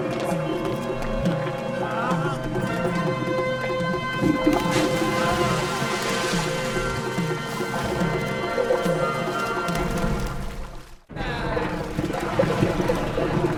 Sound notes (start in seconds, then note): 5.3 splash; 10.6 somber orchestral music